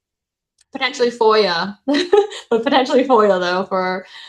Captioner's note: chuckles